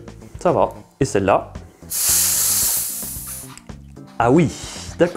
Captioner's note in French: pschhhttt